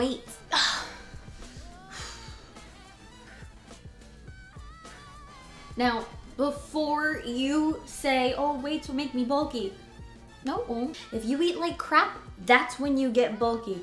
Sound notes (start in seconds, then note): 0.4 focused breathing